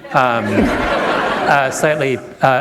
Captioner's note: laughter